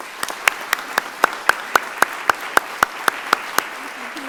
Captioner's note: audience applauding